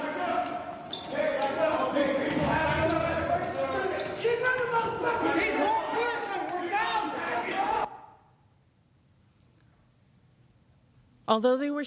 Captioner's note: yelling